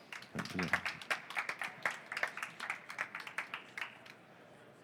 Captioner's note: audience applauding